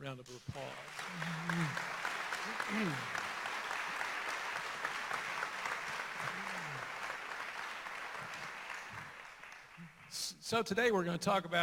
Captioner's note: applause